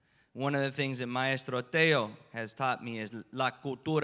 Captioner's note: spanish; spanish